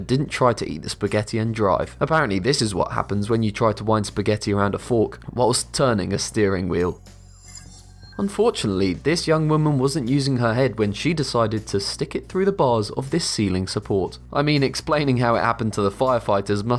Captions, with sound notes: didn't try to eat the spaghetti and drive. Apparently this is what happens when you try to wind spaghetti around a fork whilst turning a steering wheel. (futuristic ringing) Unfortunately, this young woman wasn't using her head when she decided to stick it through the bars of this ceiling support. I mean, explaining how it happened to the firefighters